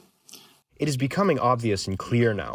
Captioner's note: through translator